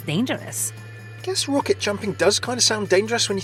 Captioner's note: voiceover